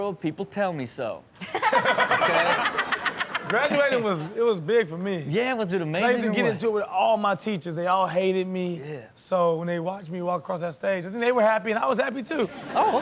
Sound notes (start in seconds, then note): 1.4 all laughing